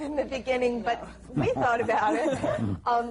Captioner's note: laughs